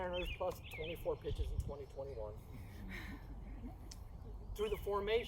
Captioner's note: facepalm followed by collective sigh